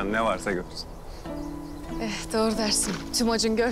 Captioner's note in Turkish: Kuş cıvıltıları